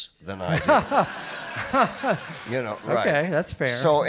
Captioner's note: audience laughing